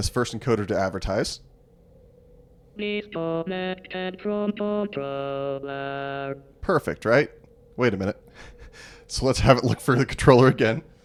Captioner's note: sarcasm